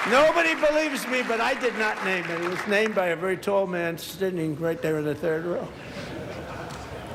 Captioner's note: applause